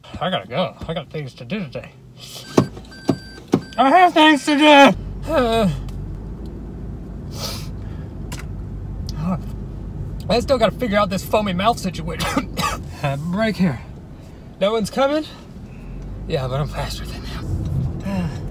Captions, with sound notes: I gotta go, I got things to do today. (car beeping) I have things to do! (groans and sniffs) I still gotta figure out this foamy mouth situation. (coughs) Ah, breaker, no one's coming. Yeah but I'm faster than them.